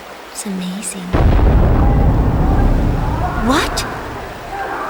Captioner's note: thunderous boom